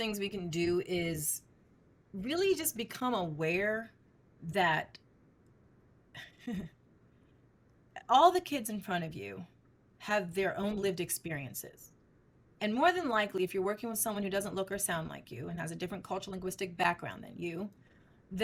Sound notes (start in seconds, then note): 6.2 chuckles